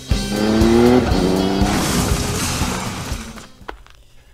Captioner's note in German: Motorengeräusche; Unfallgeräusch